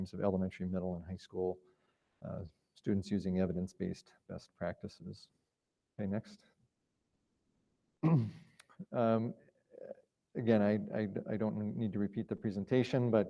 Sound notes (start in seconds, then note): 8.0 clears throat